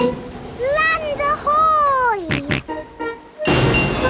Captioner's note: snorts